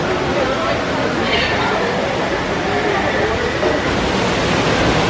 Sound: waterfall roaring

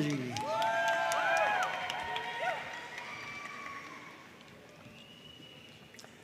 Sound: audience cheering and applauding

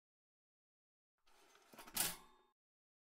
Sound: sound of toaster

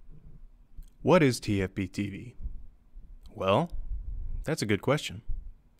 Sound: voiceover

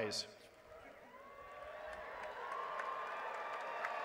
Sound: applause

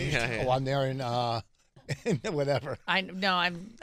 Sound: laughing

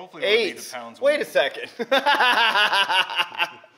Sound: laughs

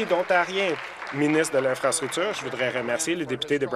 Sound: applause

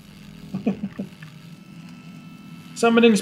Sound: chuckles

